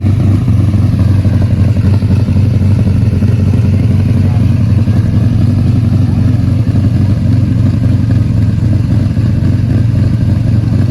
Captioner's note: Lamborghini Countach sounds